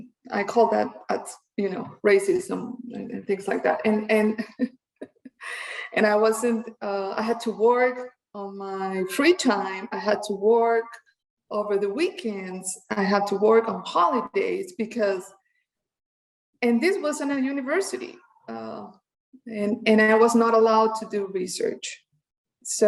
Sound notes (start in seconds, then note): 5.0 chuckles